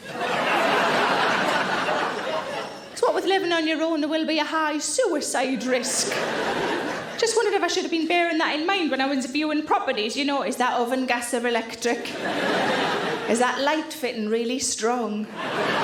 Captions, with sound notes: (audience laughing) 'cause what with living on your own, there will be a high suicide risk." just wondered if I should have been bearing that in mind when I was viewing properties, you know, is that oven gas or electric? (audience laughing) Is that light fitting really strong?